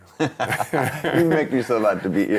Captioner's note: laughing